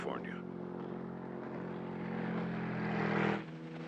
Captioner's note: engine running